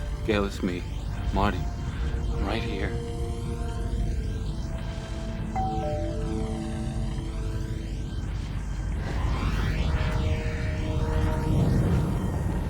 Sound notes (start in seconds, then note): 5.5 doorbell ringing; 9.8 wind rushing